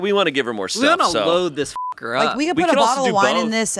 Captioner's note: beeping